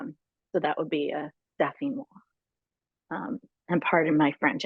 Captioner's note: speaking foreign language